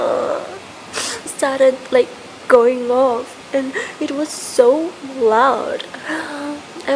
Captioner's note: crying; crying